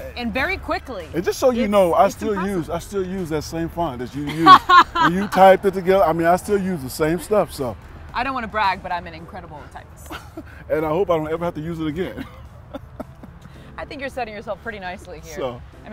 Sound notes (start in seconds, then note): 4.2 laughs; 11.9 both laugh